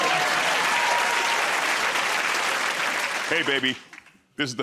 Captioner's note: cheers and applause